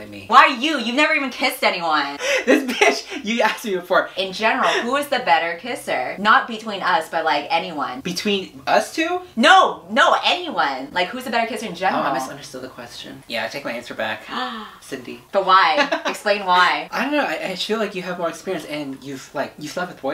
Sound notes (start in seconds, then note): 2.2 laughs; 14.4 gasps; 15.7 laughs